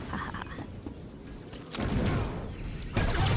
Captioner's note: humming